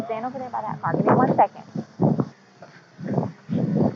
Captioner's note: wind over microphone